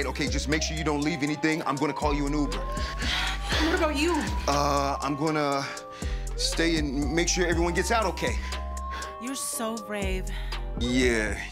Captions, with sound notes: Okay, just make sure you don't leave anything. I'm gonna call you an uber. [Heavy Breathing] And what about you? Uh, I'm gonna...stay and make sure everyone gets out okay! You're so brave. Yeah...